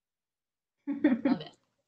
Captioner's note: laughs